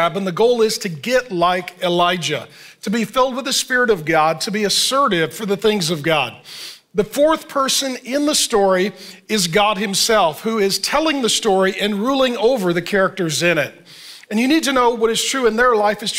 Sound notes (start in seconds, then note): none